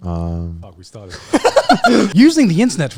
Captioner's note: laughing